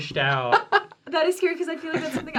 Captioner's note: laughing